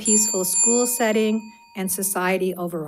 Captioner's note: bell dings